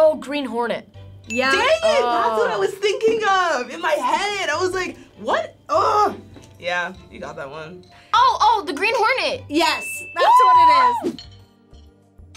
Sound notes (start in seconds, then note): 1.2 bell chimes